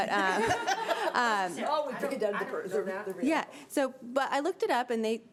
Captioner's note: laughing; members chattering